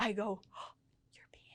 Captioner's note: gasps